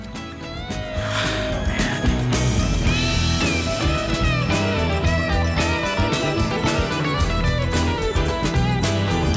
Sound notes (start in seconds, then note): 0.8 sighs